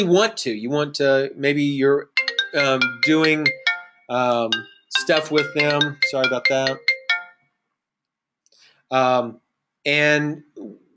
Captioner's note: phone ringing - sorry about that